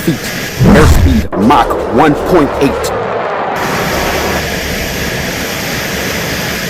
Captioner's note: plane engine buzzing